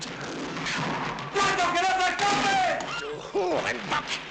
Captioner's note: shouting in Spanish